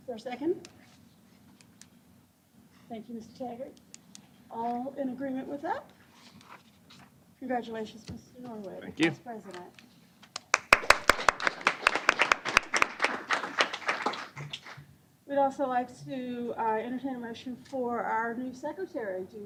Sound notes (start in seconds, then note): 10.4 applause